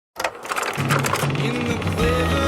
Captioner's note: film projector whirring